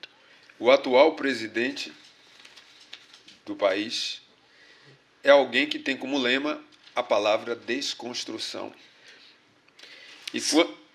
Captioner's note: speaking portuguese